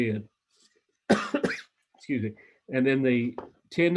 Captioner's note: coughs